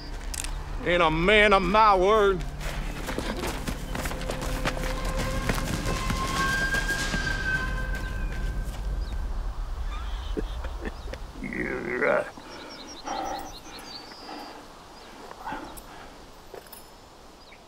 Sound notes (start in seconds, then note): 10.0 chuckles